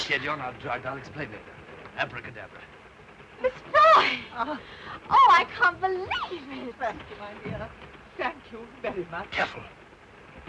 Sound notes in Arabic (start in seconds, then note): 3.7 تصرخ الآنسة فروي